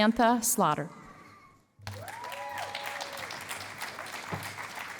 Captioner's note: cheering and applause